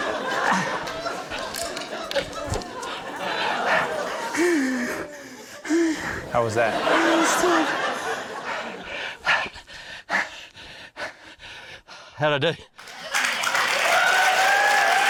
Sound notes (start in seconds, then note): 0.6 grunts; 3.4 laughter; 4.5 breathes shakily; 9.4 breathes heavily; 12.8 cheering, applause